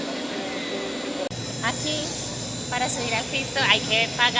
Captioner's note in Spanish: none